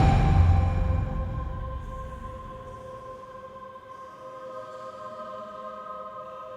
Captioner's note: soft airy music; voices murmuring